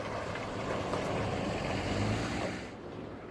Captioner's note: truck Noise